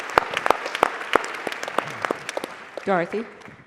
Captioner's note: applause